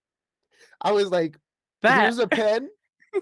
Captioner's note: laughter